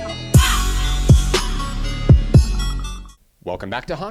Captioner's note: upbeat music; hawk call